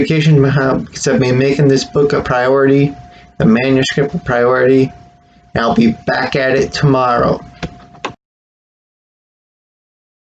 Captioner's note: click